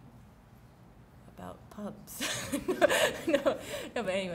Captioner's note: laughs